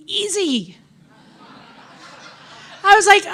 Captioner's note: audience laughing